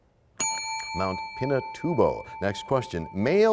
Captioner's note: bell rings, time expires